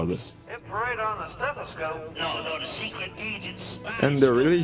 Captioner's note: radio scrambles